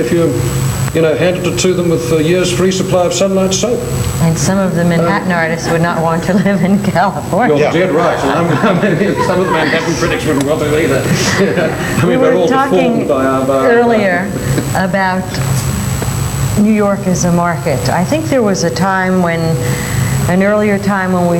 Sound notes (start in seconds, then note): 7.6 all laugh